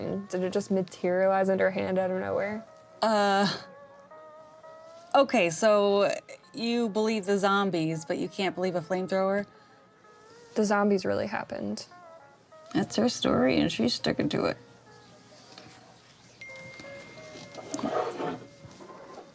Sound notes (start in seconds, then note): 16.4 cell phone ding